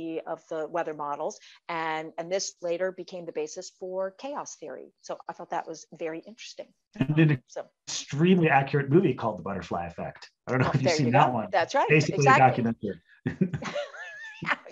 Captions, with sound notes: of the weather models, and this later became the basis for Chaos Theory. So I thought that was very interesting. - Extremely accurate movie called "The Butterfly Effect". (group chattering) - That's right, exactly. (group chattering) (both laughs)